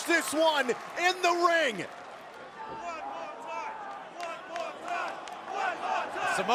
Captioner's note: crowd cheering